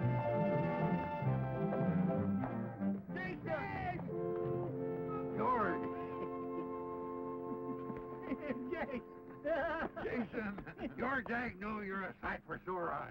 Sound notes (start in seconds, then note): 9.2 laughs